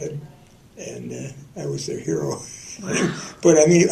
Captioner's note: laughter